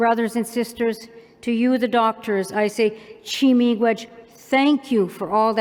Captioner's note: non-english